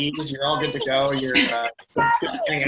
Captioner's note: laughing